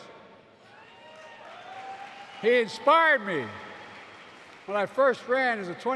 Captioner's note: applause